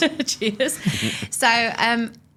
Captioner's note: laughs